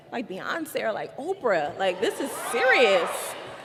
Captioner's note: cheers and applause